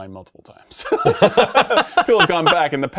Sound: laughing

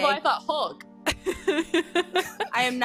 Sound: laughing

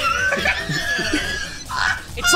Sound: laughing

